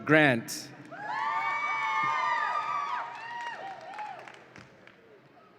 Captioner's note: audience applauds and cheers